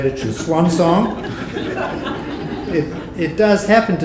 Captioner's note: audience laughing